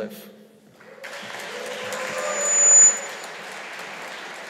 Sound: audience applauding

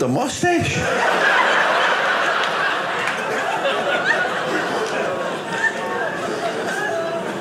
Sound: audience laughing

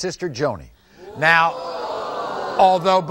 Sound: audience screaming

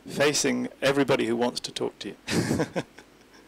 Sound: laughs

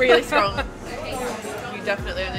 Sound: laughs

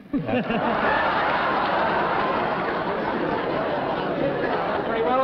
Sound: laughter

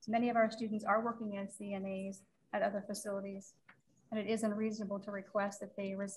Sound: none

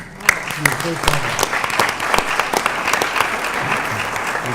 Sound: applause

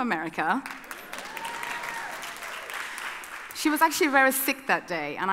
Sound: audience cheering

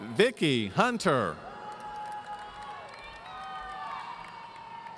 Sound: audience cheering

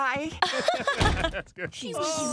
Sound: laughing

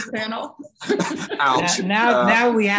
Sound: chuckles

